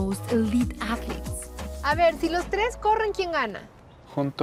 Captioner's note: all speaking Spanish